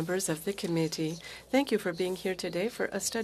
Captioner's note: speaking French